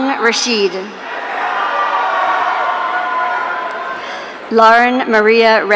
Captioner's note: audience cheering